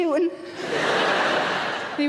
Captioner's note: audience laughing